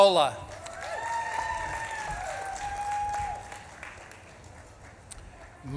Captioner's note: audience claps and cheers